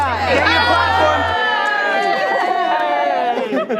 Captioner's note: all cheering